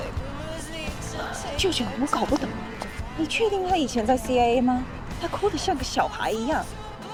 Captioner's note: niece speaking foreign language